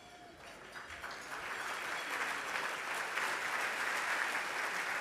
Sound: audience applauding

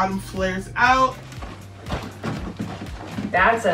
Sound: feet stomping

